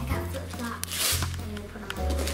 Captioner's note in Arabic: تمزيق الورق